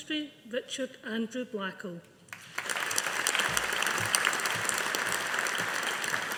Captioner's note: audience applauding